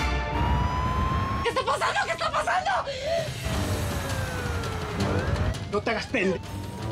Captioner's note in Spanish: sirenas